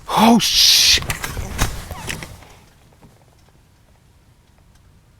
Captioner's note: camera clatters